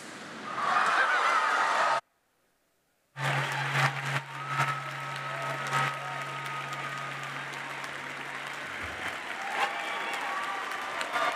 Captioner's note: cheering and Applause